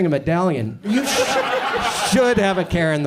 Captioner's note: audience laughs